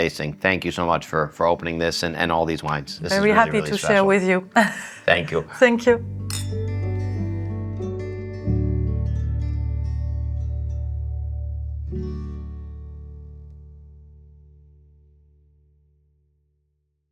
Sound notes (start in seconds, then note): 4.5 laughs; 5.0 gentle music; 6.2 glasses clinking